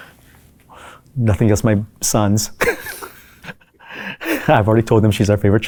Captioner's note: laughs